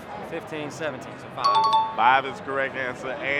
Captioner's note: chime dings